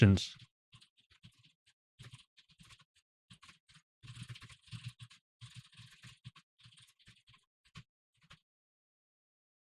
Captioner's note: typing sounds